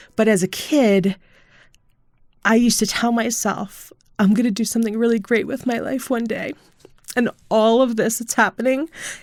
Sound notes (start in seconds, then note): 6.5 choking up